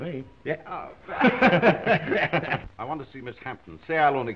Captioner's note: all chuckling